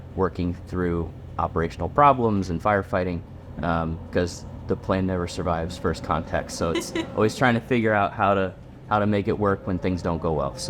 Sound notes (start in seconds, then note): 6.7 laughing